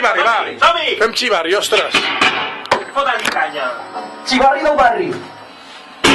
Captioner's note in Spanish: algarabía general